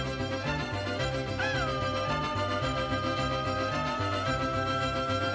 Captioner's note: sustained Mexican <i>gritos</i>